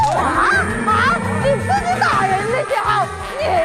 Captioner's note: voice cracking with rage